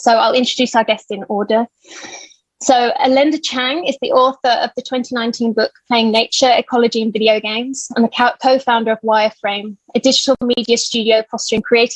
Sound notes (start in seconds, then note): none